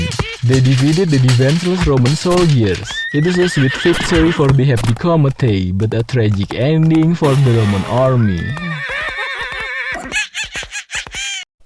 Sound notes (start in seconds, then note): 7.7 huft; 9.6 horse neighs; 10.9 Hepticometei Laugh